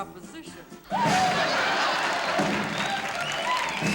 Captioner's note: laughter